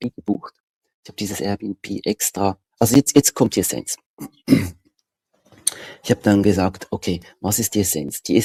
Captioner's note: ahem